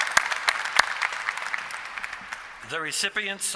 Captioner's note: applause